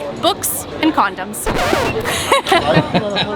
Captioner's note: record scratches